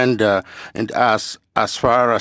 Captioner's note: speaking French